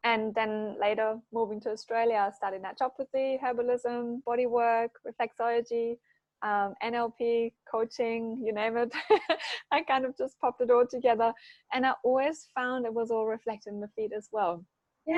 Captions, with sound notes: And then later moving to Australia, starting that job with the herbalism, bodywork, reflexology, NLP, coaching, you name it (laughs). I kind of just popped it all together. And I always found it was all reflected in the feet as well.